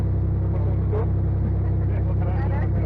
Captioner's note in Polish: śmiech